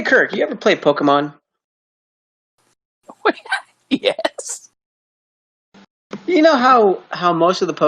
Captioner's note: confused chuckle